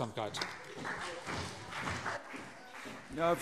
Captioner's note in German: Beifall CDU